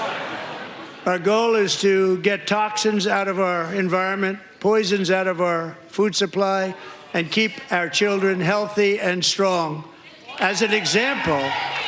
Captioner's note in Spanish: aplausos